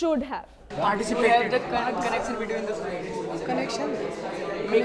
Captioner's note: students discussing